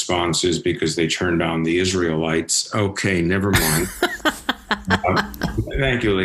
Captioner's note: laughs